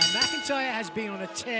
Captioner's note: bell ringing